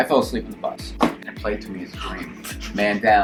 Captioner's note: banging